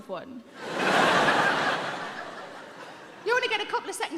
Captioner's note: audience laughing